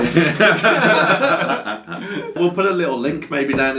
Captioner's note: both laugh